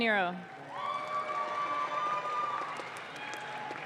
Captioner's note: audience claps